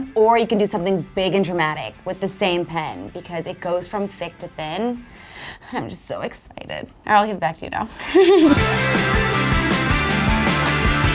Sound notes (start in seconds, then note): 5.1 sighs; 8.0 laughs; 8.2 upbeat music